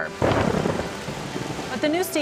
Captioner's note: thunder booms